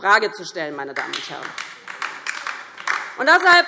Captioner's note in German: Beifall DIE LINKE